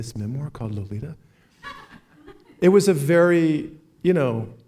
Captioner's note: laughs